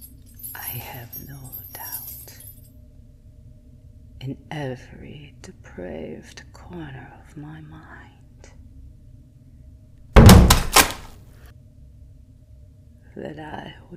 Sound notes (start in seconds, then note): 9.7 wheelbarrow crashing, meat spilling onto floor